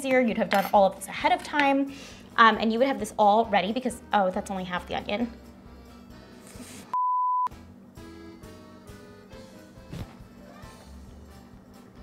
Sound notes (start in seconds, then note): 6.9 beep; 7.9 upbeat music